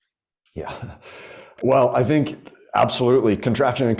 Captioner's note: chuckles